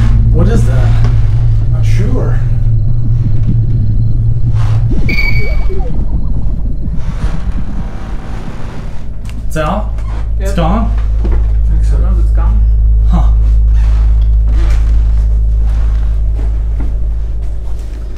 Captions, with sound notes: What is that? I'm not sure. (electronic bubbling sounds) So, it's gone? I think so. Huh.